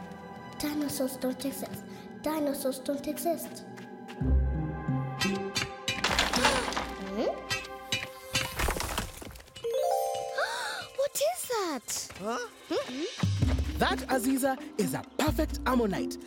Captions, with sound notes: Dinosaurs don't exist. Dinosaurs don't exist. (gasps) Hmm? (insects buzzing) (gasps) - What is that? - Huh? - Hmm? - That, Aziza, is a perfect ammonite,